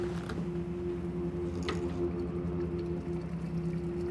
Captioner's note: door creaks softly